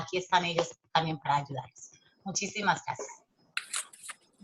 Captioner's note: speaking Spanish